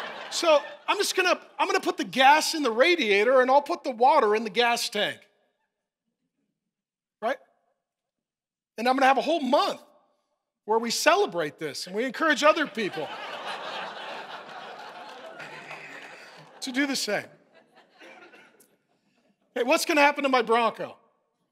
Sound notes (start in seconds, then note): 14.3 congregation laughing